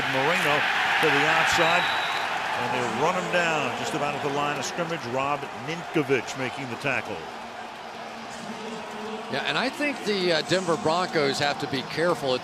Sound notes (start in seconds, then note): 7.7 upbeat music; 8.6 pa announcement